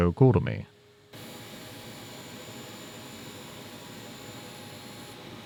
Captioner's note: machinery whirring